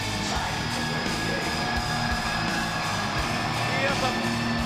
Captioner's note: audience cheering